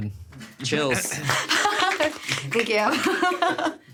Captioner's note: essayists applauding; laughing